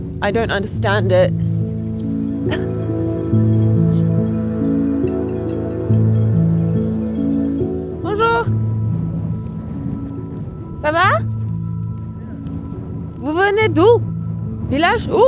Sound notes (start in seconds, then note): 3.8 gentle music; 8.7 speaks foreign language